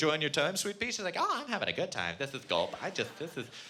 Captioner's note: none